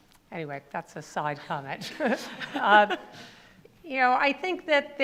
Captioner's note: laughs